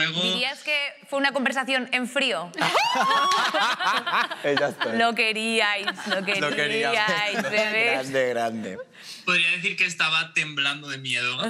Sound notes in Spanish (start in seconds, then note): 2.6 Risas